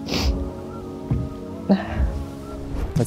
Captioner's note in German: Sie seufzt